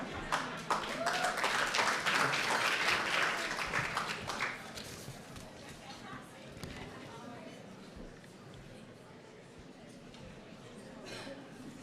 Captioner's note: laughter and applause